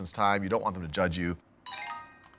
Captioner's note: computer dings